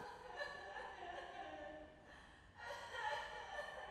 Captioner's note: faint sobbing